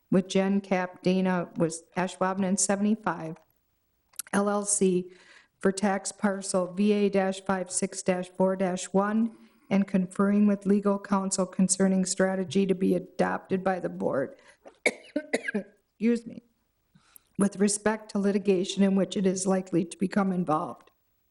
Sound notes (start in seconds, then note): 14.8 coughing